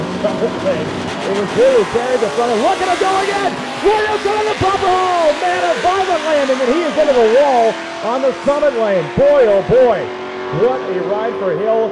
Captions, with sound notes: Look at it go again!! (announcer yelling fast) Boy oh boy, what a ride for him.